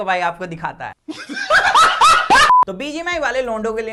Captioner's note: laughs